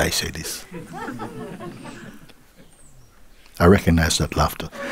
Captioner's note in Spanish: Risas